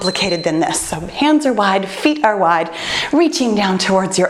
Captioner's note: timer beeps